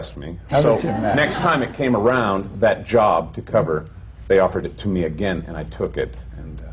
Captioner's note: laughter